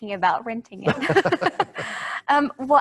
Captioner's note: they laugh